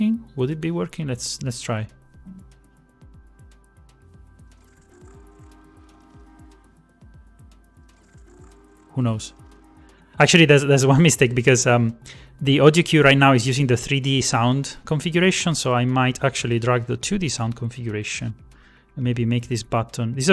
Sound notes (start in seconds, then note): 4.8 choo-choo sounds